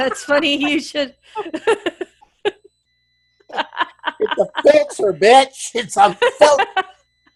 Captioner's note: laugh